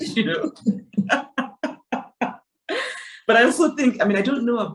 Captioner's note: Chimamanda laughs